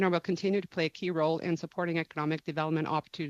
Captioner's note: speaking French